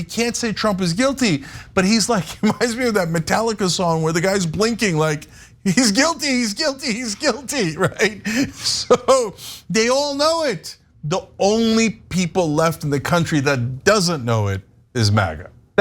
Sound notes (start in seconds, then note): 7.2 laugh